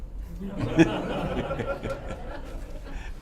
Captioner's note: laughter